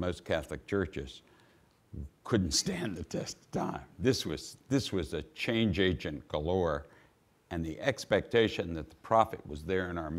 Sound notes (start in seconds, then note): none